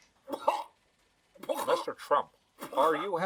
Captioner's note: coughing